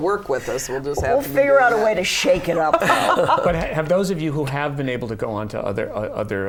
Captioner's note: laughter